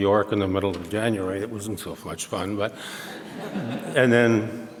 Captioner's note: audience laughs